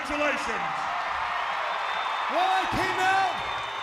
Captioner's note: audience applauds and cheers